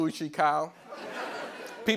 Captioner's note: laughter